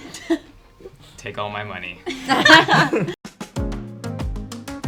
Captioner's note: all chuckling; upbeat music